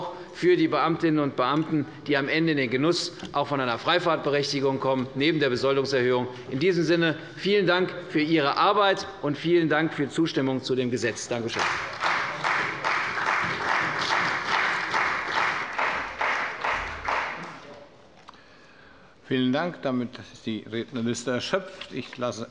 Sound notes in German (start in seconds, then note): 11.5 Beifall bei der CDU und dem BÜNDNIS 90/DIE GRÜNEN